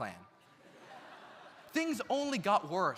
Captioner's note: audience laughs